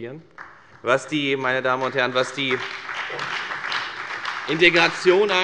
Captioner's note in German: Beifall bei der FDP, der SPD und dem BÜNDNIS 90/DIE GRÜNEN